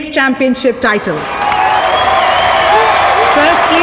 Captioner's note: All cheering, clapping